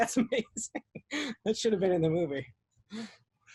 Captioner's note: laughing